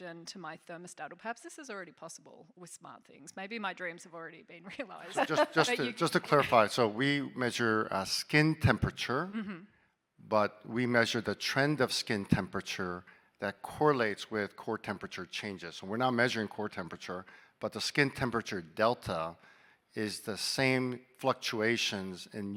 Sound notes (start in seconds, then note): 4.7 laughing; 5.0 chuckling